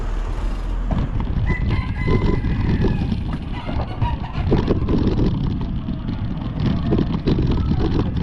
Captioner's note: rooster crowing